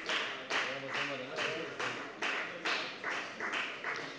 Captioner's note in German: Beifall bei der FDP